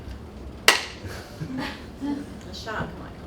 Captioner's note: claps